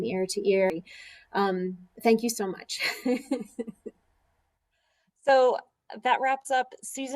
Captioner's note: laughter